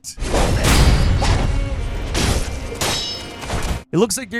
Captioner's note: foot thuds; exciting music; sword clanging